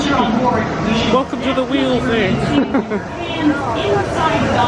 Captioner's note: laughs